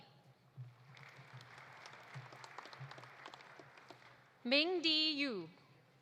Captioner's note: audience applauding